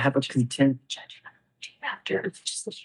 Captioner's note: attorney wispering